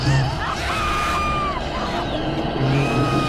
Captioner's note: screaming